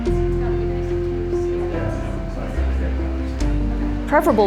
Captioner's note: staff talking